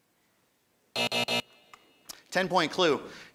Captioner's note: buzzing